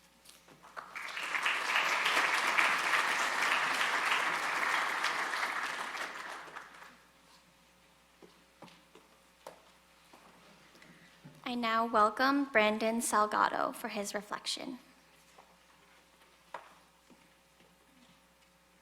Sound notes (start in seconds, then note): 0.6 audience applauding